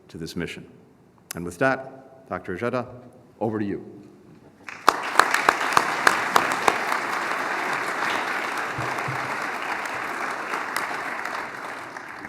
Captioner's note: applause